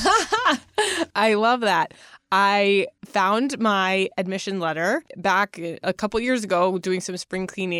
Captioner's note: laughs